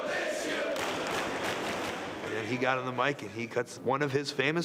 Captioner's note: applause